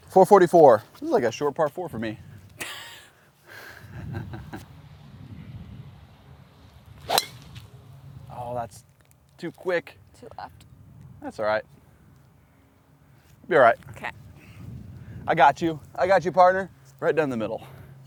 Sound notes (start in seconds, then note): 2.5 laughs